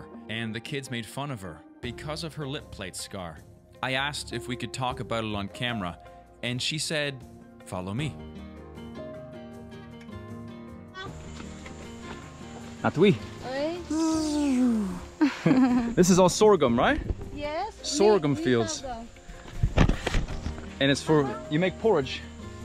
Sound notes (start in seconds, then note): 8.8 pastoral music plays; 13.8 laughs; 15.2 buzzing